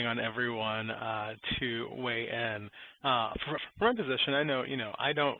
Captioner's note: audio warps